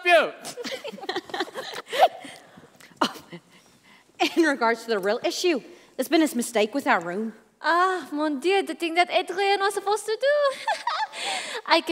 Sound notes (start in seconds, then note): 0.5 Rose and Aveline laugh